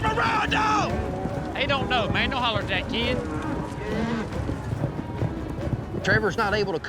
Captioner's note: shouting, hoofbeats